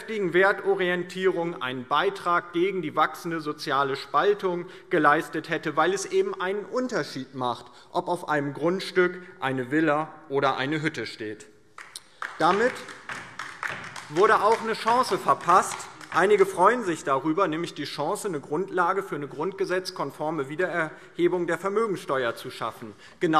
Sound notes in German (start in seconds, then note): 11.7 Beifall DIE LINKE